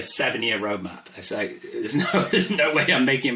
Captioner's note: laughs